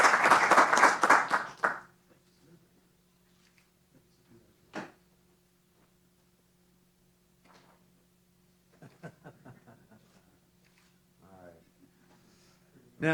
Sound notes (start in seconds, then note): 9.5 laughs